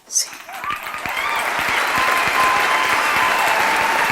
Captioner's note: cheering